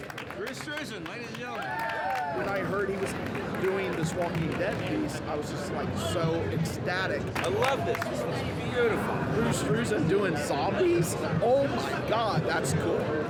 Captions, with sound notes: I was just, like, so ecstatic. I love this. This is beautiful. Drew Struzan doing zombies? Oh, my God! That's cool. [ Fans Chattering ] Wow, yours is a lot of work. You wanna see mine?